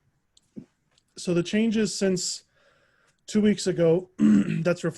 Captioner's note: clears throat